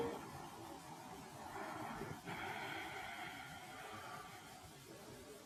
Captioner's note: exhales deeply